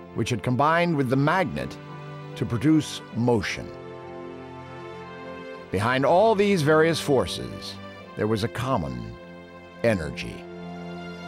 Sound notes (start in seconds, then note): none